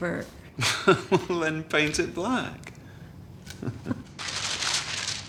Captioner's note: laughs